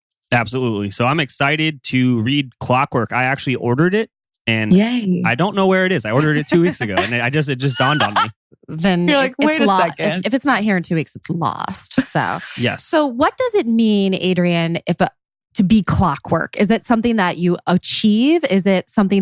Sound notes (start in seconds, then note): 5.2 laughs